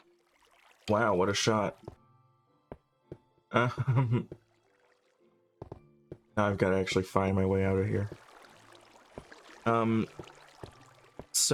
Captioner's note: laugh